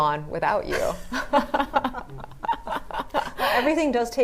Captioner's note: both laughing